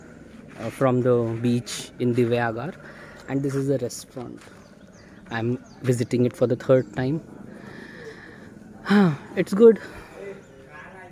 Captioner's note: breathes out